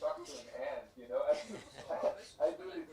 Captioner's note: laugh